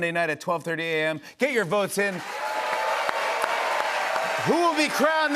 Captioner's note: cheers and applause